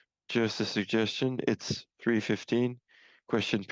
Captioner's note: speaking French